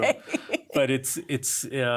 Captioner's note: laugh